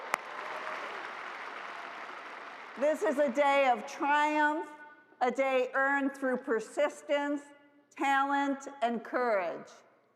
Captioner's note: cheers and applause